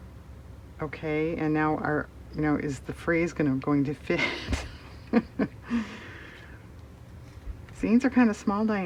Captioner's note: laughs